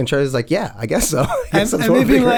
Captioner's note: laughs